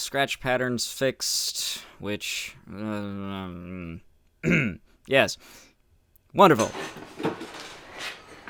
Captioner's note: grumble